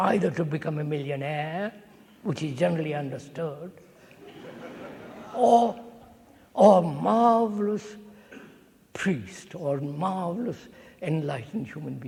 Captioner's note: laughter